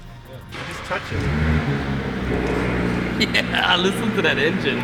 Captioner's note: starting car engine